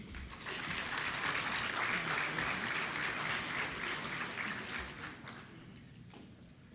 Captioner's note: applause